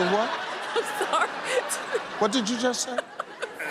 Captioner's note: laughs